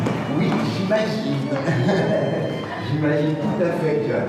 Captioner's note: laughs